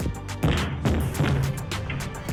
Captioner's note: door banging